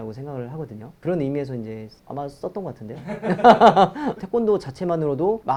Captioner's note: laughs